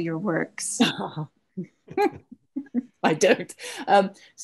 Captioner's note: laughs